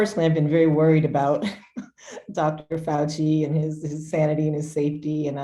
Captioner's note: chuckles